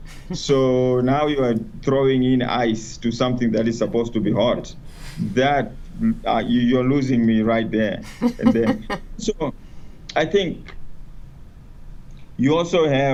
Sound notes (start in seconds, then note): 7.8 laughs